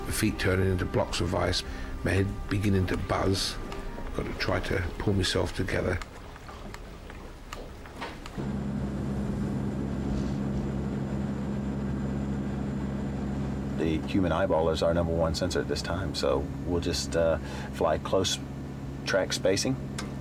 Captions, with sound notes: the feet turning into blocks of ice, my head beginning to buzz, I've got to try to pull myself together. [helicopter whirring] - The human eyeball is our number one sensor at this time, so we'll just fly close, track spacing,